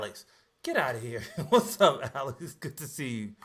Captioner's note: laughs